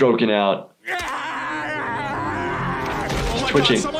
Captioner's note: Peter shouts